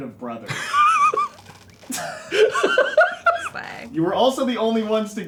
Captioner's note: laughs